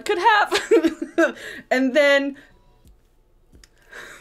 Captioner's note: laughing